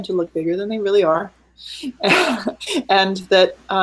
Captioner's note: laughing